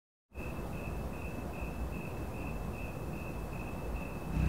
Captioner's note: cricket chirps